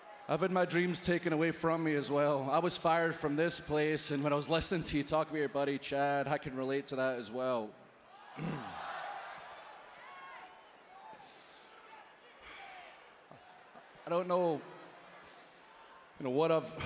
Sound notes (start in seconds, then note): 8.2 applause; 8.3 cough